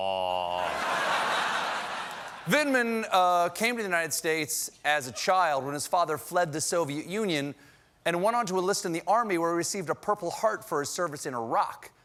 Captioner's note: laughter